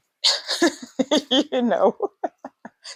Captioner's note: laughs